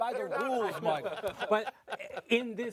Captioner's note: laughing